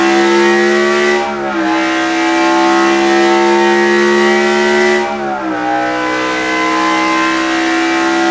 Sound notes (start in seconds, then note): 1.8 engine roaring continues